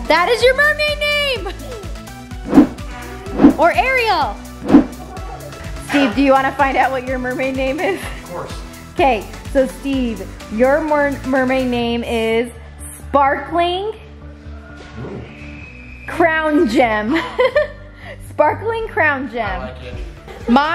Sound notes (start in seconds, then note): 2.4 air whooshing; 7.8 chuckles; 17.4 laughs